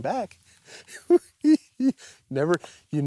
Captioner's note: giggles